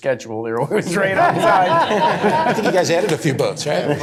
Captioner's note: laughter